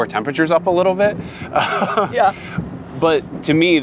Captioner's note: laughing